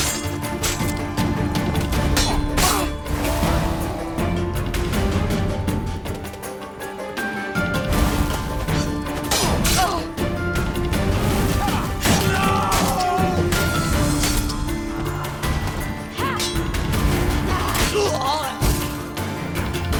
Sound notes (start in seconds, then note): 10.2 groan; 18.7 cries out